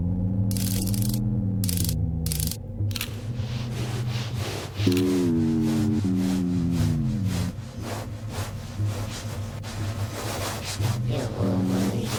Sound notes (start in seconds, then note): 0.4 mechanical sounds